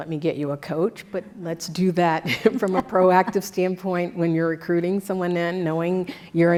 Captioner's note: laugh